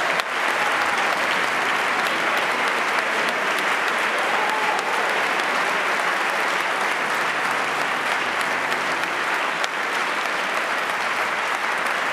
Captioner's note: applause